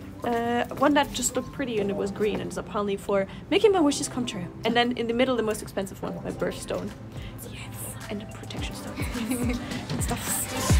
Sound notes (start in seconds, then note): 7.1 whisper; 9.0 laugh